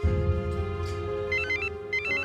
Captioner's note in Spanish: Suena el celular